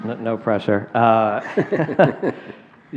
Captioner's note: laughter